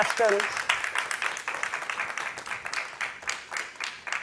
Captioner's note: audience applauding